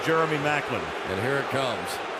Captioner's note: booing